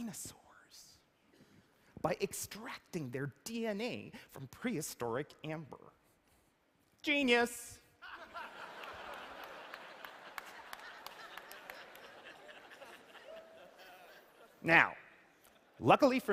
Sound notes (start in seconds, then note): 8.0 laughter